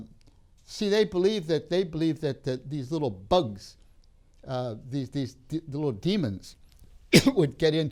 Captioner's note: coughs